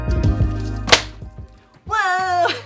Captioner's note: foot slaps; laughs